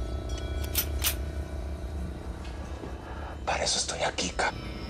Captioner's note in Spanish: Sonido al enristrar